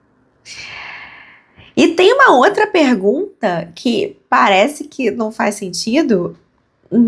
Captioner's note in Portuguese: suspirando